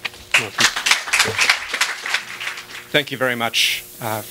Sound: applause

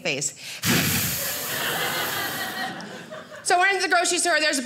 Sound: hissing

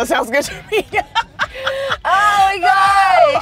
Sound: laughing

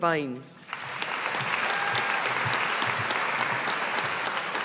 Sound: audience applauding

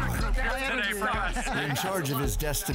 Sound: the men chatter

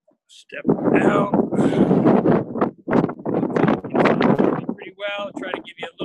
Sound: wind blowing

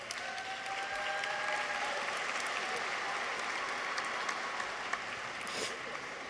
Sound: people cheer; audience applauds

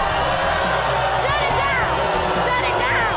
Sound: crowd jeers

